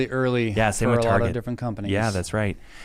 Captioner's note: both chattering